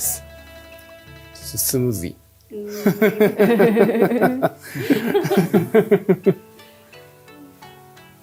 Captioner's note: laughing